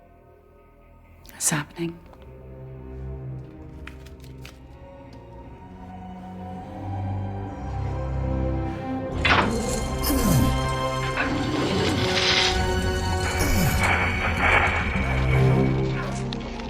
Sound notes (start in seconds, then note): 10.1 chains rattling; 10.1 dramatic music